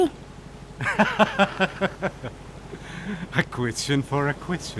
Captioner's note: laughing